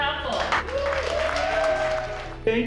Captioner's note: cheering and applause